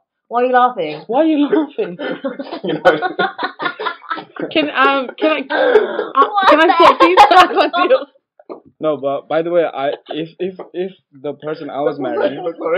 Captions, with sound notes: Why you laughing? Why you laughing? *LAUGHS* By the way, if the person I was marrying...